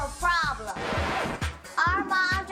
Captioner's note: record scratch